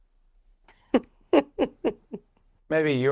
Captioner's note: laughs